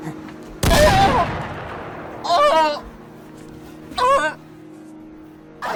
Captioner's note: screams of pain